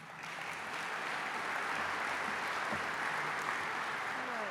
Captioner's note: applause